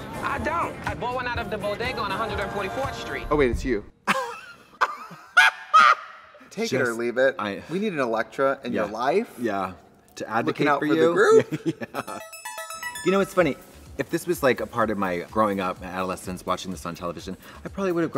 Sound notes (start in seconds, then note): 4.1 laughs